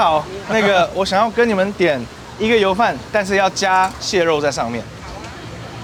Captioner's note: man speaking foreign language